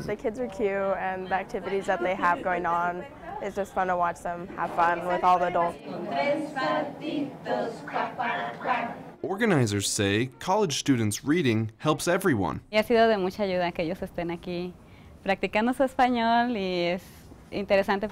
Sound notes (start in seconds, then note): 6.1 speaking spanish; 12.8 speaking spanish